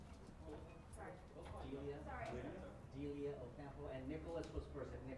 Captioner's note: faintly speaking